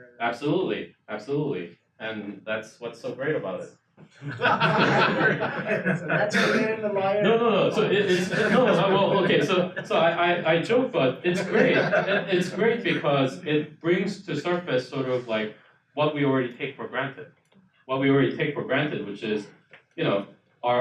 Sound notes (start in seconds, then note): 4.2 audience laughs